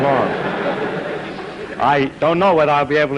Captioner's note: laughter